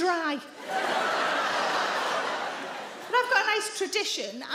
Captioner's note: audience laughing